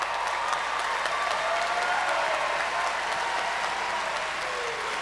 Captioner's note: cheers and applause